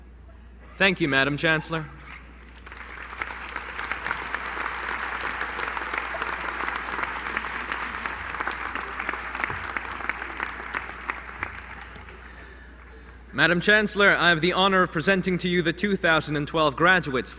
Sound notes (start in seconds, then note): 2.1 applause